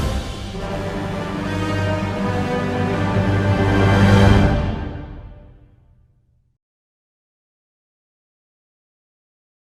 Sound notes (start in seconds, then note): 6.9 silence